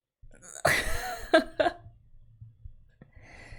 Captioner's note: laughs